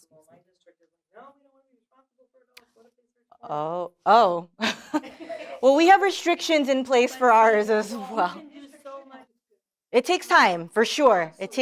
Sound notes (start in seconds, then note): 4.6 laughter